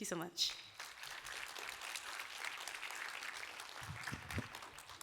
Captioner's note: applause